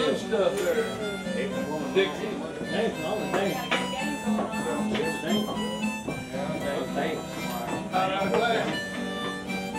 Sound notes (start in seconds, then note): 2.1 harmonica music; 2.1 people chattering